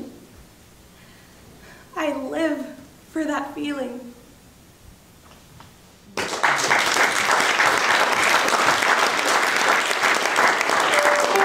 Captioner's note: audience clapping